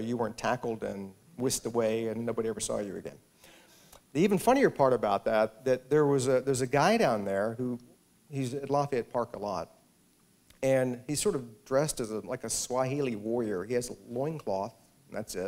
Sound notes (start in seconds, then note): none